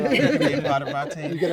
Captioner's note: participants laugh